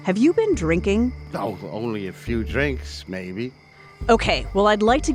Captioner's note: slurred speech